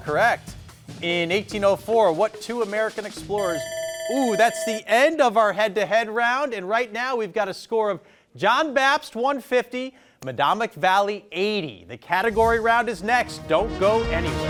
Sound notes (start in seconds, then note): 3.3 timer ringing; 12.1 text whooshing